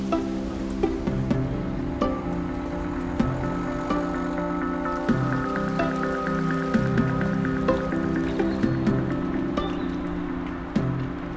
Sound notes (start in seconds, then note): 0.2 students talking; 2.2 distant cars running; 5.2 water flowing; 8.6 footsteps on pavement